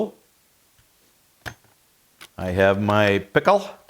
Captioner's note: metal clattering